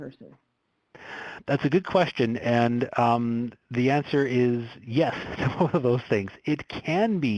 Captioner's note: laughs